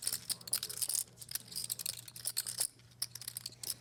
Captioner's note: chips clatter